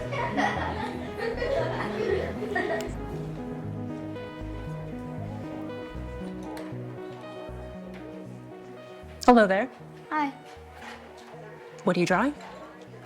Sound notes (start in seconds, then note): 0.0 students laughing; 2.9 fingers flick; 4.2 gentle music